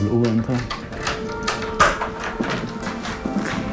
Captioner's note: door opens